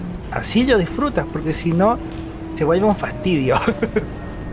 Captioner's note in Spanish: risas